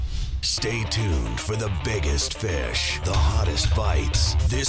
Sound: voiceover

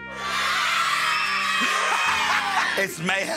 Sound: children screaming

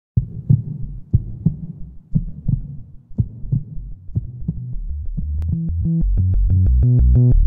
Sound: heartbeat sounds; electronic music

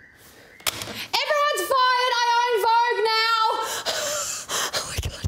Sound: laughs

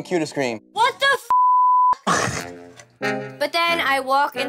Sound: beep

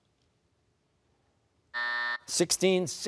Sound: buzzer

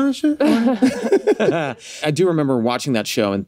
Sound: all laugh

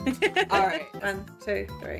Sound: laughs

